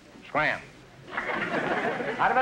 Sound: audience laughter

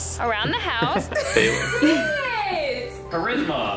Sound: laughing

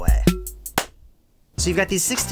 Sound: clap

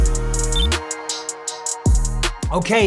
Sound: relaxed dub music; graphic blips

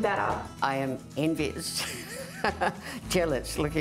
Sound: laughs

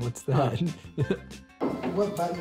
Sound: chuckling

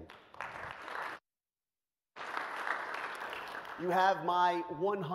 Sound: audience claps

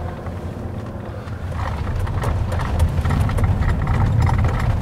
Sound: engine rumbling

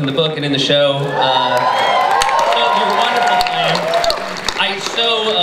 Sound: cheering, applause

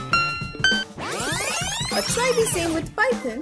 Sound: rewinds

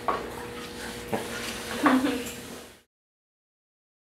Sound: student laughs off camera

